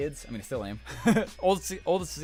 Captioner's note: laughs